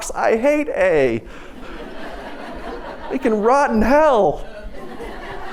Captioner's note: laughter